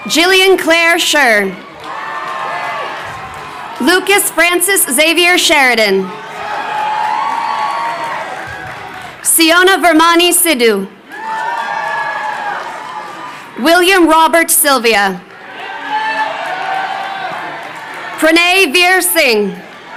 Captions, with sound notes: Jillian Claire Sher. Lucas Francis Xavier Sheridan. (crowd cheering) Syona Virmani Sidhu. (crowd cheering) William Robert Silvia. (crowd cheering) Pranay Vir Singh.